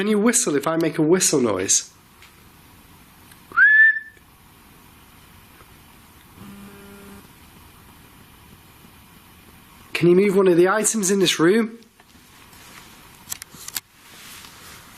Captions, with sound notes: Can you whistle if I make a whistle noise? (short whistle) (short buzz) Can you move one of the items in this room?